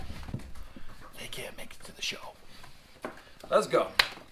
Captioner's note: whispers